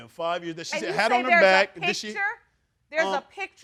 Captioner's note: none